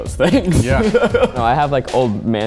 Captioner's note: laughs